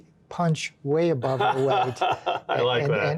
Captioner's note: laughing